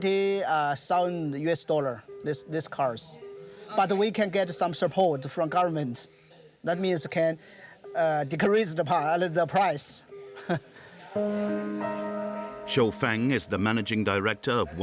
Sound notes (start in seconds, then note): 10.3 chuckles softly; 10.8 soft piano music